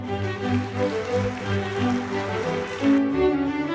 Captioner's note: applause; orchestral music